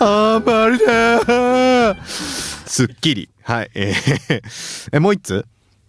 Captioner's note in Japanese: 笑い